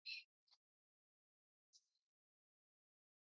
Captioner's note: silence